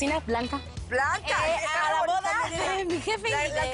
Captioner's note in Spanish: Hablan al unísono